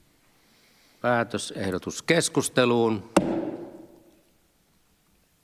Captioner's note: Nuijan kopautus